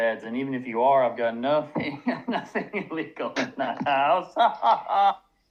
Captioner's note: laughs